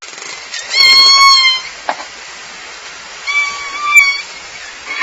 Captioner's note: loud orca calls